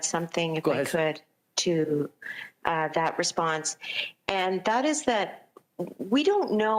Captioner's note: speaking french